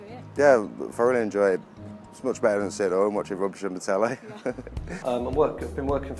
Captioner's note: laughs